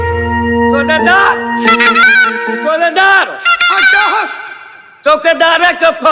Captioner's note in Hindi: चीखने की आवाज़